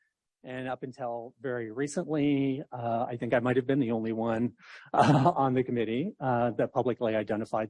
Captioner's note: laughs